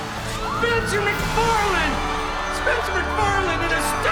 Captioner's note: crowd cheers